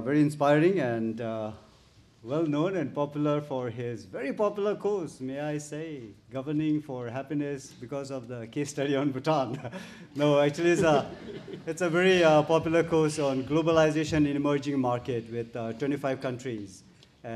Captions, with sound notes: and well known and popular for his very popular cause, may I say, governing for happiness because of the case study on Bhutan (chuckles). (audience laughs) No actually, it's a very popular course on globalization in emerging market with 25 countries